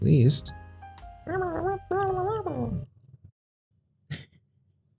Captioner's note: vocalizing